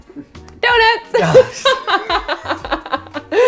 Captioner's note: laughs